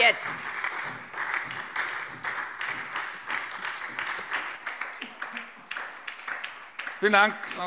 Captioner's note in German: Beifall SPD, Freie Demokraten und DIE LINKE